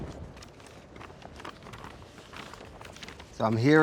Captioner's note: map rustling